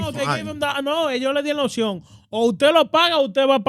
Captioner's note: speaking In Foreign Language